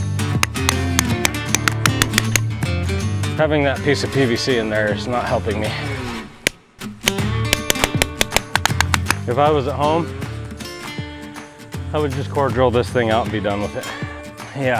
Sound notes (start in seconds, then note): 7.4 deep hammer pounding